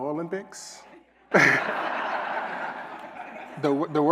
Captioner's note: laughter